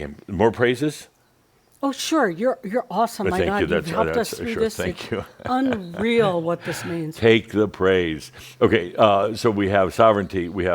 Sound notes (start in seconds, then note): 6.0 Adamus chuckles